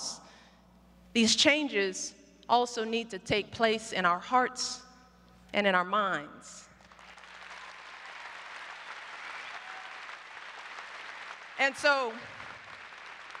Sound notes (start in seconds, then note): 6.8 applause